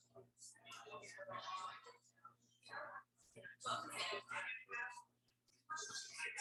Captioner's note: people chattering indistinctly